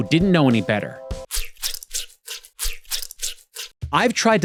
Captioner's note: squishing